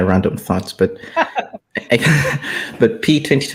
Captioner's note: laughing